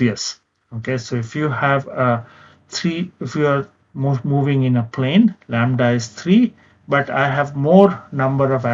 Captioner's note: vocalized- noise